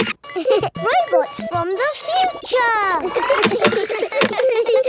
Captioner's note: laughs; kids giggling